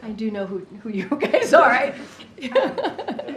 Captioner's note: laughs